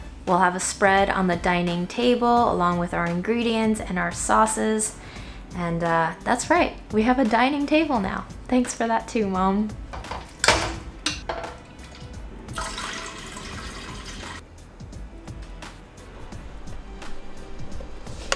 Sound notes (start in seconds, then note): 9.9 pot clangs; 12.5 liquid rushing